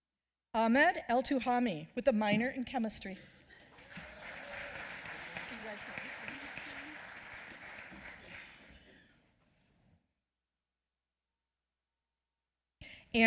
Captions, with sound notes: Ahmed El Tuhami with a minor in chemistry. (applause)